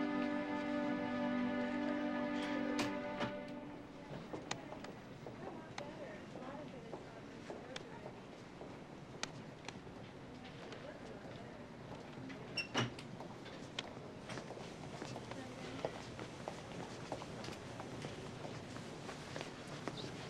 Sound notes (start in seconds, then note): 0.1 door creaks; 6.5 people chattering in distance; 13.1 door creaks